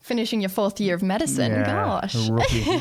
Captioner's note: laughing